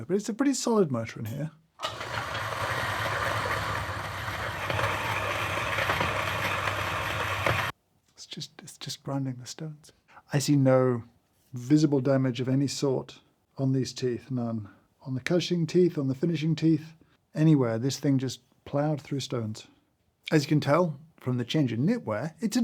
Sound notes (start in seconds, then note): 1.8 grinder whirring; 4.8 stone clacking